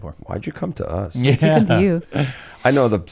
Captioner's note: laughs